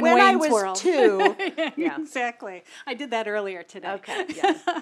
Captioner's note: laugh; laugh